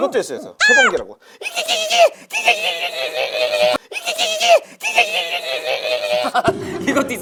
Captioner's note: making a weird noise